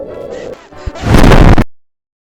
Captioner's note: intense rumbling